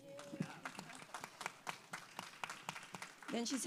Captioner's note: audience applauds